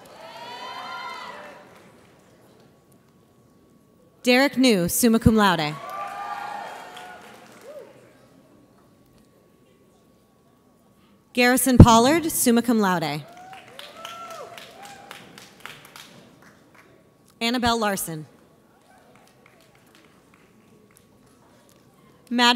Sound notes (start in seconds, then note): 0.0 audience cheers; 5.8 audience cheers; 13.2 audience applauds; 18.8 audience applauds